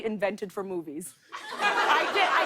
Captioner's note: laughter